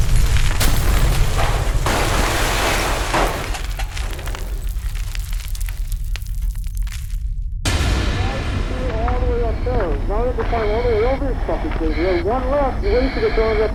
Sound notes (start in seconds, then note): 1.6 debris falling; 4.1 debris settling; 7.6 outside ambience